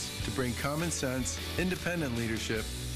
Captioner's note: none